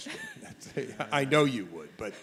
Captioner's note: laughs